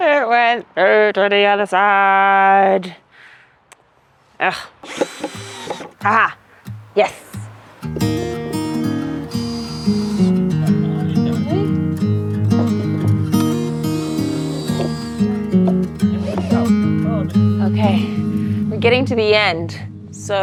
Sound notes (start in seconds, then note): 4.8 drill whirring; 8.5 drill whirring; 8.5 gentle music; 13.3 drill whirring